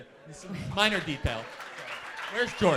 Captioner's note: audience applauds